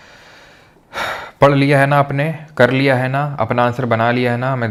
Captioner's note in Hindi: अचानक ज़ोर से सांस लेने की आवाज़; गहरी सांस लेने की आवाज़